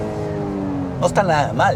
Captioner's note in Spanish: Sonido del Motor